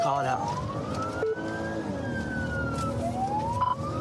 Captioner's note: siren blares